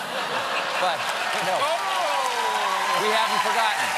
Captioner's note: cheers and applause